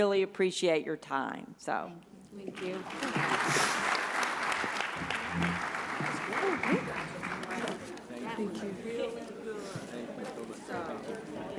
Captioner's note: background chatter